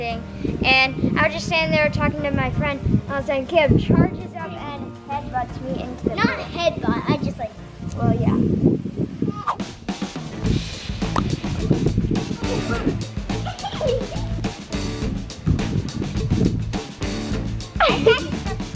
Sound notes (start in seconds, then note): 9.9 upbeat music; 13.3 giggling